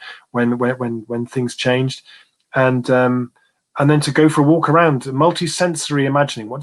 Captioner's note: erm